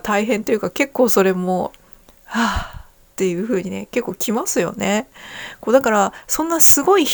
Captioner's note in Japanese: ため息